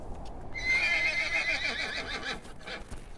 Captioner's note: horse whinnies